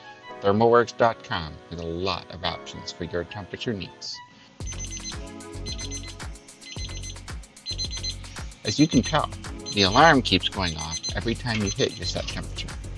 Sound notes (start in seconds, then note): 4.6 beeping